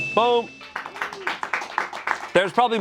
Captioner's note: bell dings; friends clap